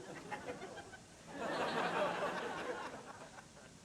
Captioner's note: laughter